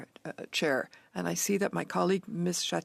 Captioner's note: speaking French